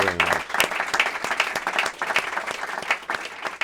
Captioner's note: applause